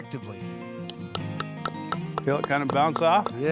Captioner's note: hammering